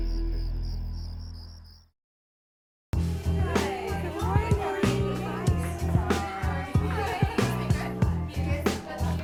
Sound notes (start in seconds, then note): 3.0 pleasant music; 3.2 women chattering